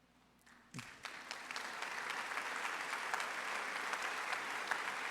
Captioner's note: audience applauds